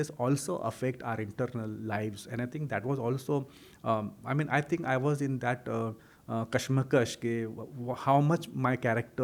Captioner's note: hindi